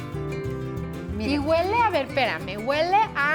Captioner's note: speaking Spanish